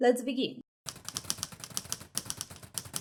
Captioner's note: typewriter sounds